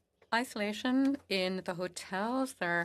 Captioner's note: speaking FRENCH